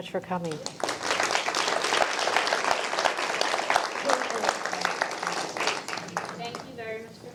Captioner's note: applause